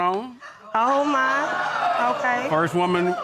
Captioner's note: audience exclaiming